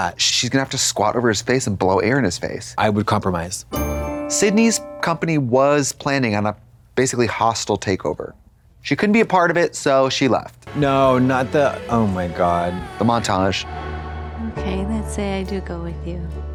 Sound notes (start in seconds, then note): 3.7 bright chime